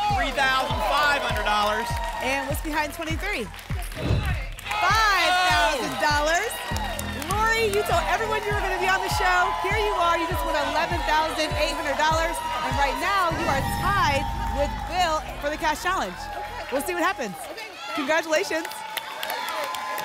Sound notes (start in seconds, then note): 3.9 whoosh; 5.9 applause and cheering